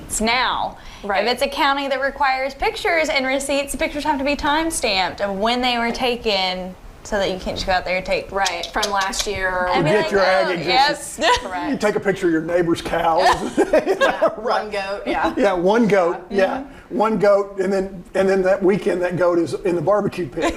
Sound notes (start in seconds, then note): 13.2 laughing; 20.4 laughing